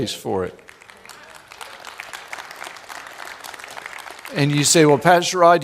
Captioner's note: applause